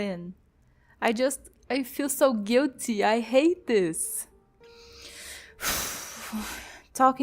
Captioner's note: sigh